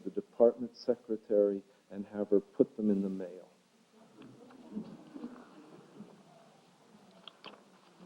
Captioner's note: audience gasps and murmurs